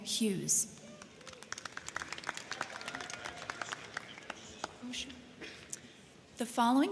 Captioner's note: crowd clapping; crowd cheering